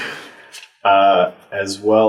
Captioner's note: all laugh